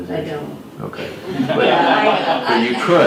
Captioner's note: laughs